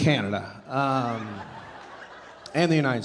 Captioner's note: audience laughing